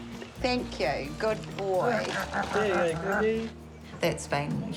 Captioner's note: laughs